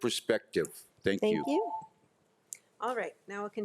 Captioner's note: timer chimes